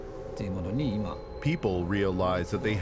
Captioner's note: speaking Japanese